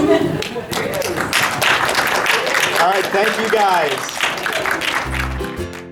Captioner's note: audience chuckling; audience applause